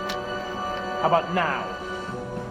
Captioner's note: gun clicks